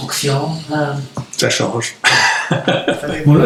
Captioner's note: laughs